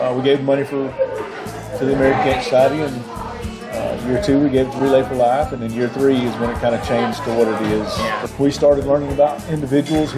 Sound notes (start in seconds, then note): none